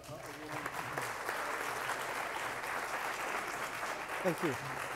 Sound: applause

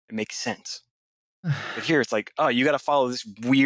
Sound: sighs

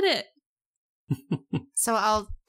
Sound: laughs

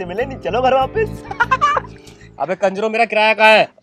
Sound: laughing

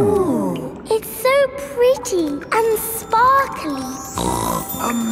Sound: snorts

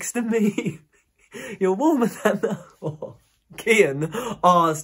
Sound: giggling

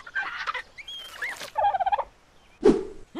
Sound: squeaking

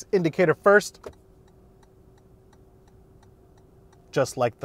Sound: blinker clicking

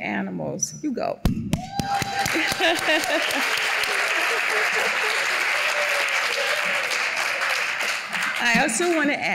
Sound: applause

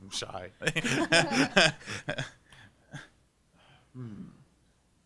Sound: panelists laughing

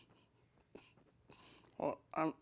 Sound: laughs

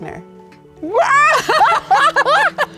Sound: yelps; laughing

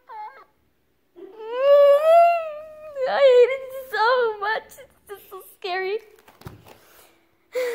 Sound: cries; sighs

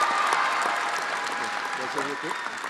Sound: audience cheering and applauding

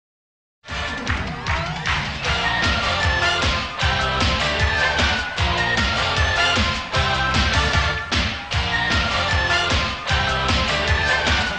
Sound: fast-paced Music; clapping in time to music

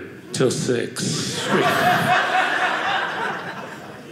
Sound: audience laughing

